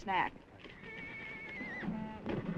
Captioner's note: horse neighing; horse hooves clopping